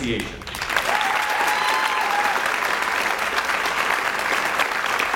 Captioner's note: audience cheers and applauds